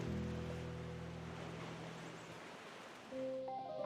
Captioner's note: gentle waves